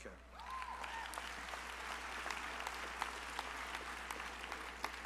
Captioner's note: crowd applauding